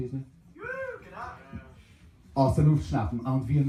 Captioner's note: cheer